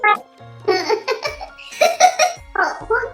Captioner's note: laughs